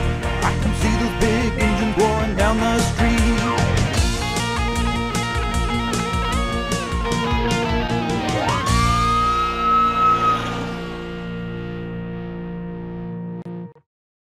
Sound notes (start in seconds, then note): 3.1 upbeat music; 5.6 siren wailing; 6.5 upbeat music